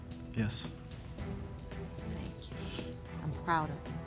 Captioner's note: sniffles